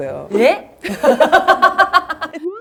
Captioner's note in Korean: 둘 다 어이없어서 웃음